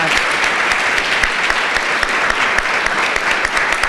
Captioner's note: applause